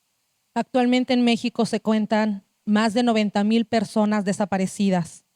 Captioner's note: speaking Zapotec language